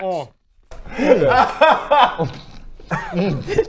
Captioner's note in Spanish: risas